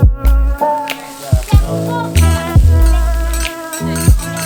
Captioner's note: grill sizzles